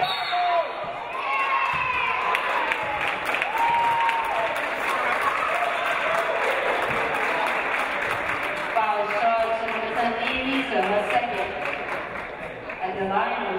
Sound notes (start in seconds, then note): 0.0 referee blows whistle; 5.6 audience applauding